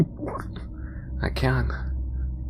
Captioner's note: gagging